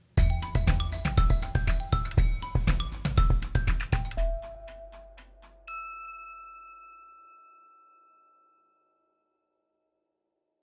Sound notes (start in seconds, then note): 0.1 upbeat instrumental music; 5.5 logo transition dinging